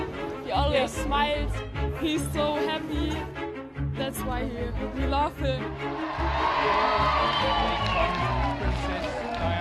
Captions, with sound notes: - Oh, yes, smiles. - He's so happy, that's why we love him. (crowd cheering)